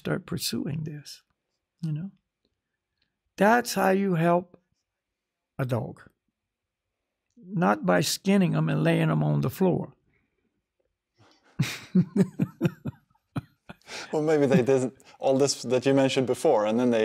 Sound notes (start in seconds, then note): 11.5 laughs